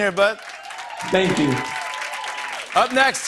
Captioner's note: cheers and applause